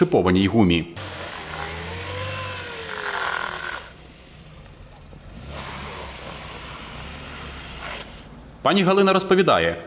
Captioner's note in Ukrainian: звук автомобіля